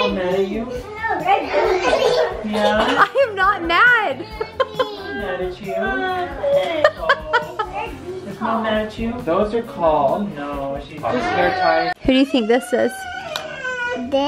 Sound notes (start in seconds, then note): 6.6 laughs; 6.7 whining